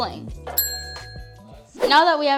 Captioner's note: ding